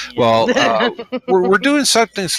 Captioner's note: laughs